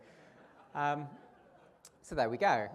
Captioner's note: audience laughter